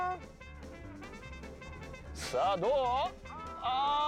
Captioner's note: speaking Japanese